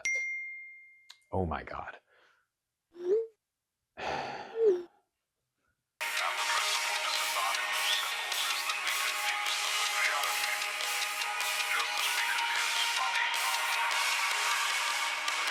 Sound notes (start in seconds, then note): 0.0 iPhone notification bell; 4.0 sighs